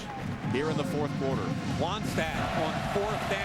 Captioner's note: crowd cheering